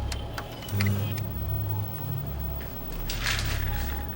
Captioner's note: monitors whirring